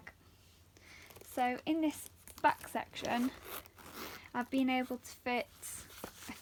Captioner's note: sound of the zip opening